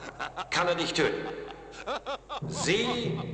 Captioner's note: laughing